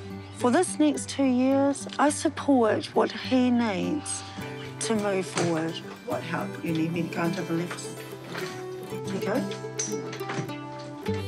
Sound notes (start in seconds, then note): none